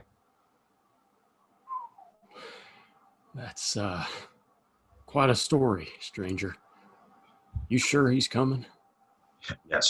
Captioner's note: low whistle